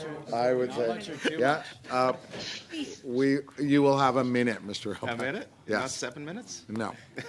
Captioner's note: laughter